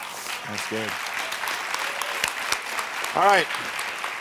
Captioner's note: audience applauding